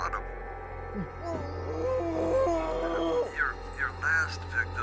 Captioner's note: Kenny screams